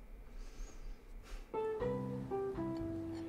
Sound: sigh

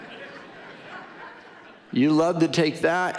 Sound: audience laughing

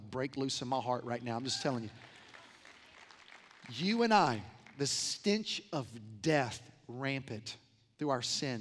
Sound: applause

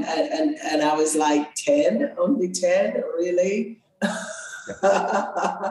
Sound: laughs

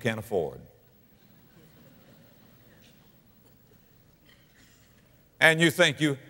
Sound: audience laughter

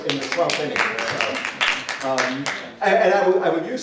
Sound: applause

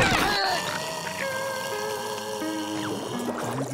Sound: snoring

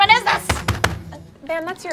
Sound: table banging

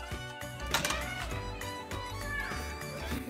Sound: automatic door opens

